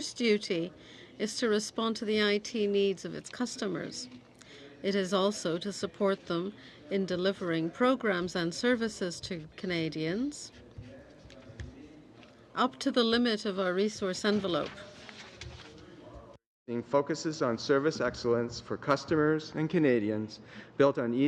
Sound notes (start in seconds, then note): 3.7 speaking French